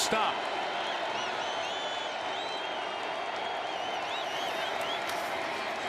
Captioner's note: crowd cheering